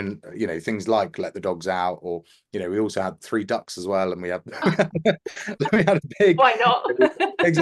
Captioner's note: laugh